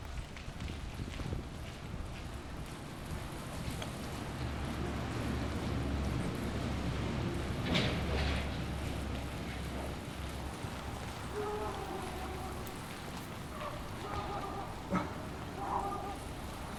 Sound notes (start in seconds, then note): 3.4 traffic rumbling; 10.4 distant dog barking